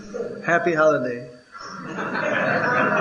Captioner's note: laughter